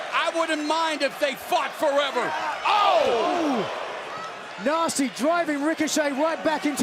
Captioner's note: fans chanting fight forever